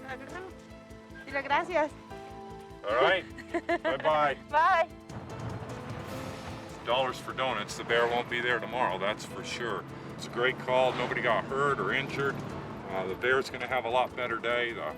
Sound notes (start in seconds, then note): 0.0 speaks in Spanish; 0.2 person speaking in Spanish; 3.1 laughs; 5.0 tense music continues